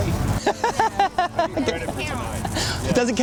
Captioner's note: laughter